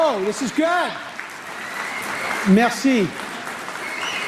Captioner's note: cheering/Applause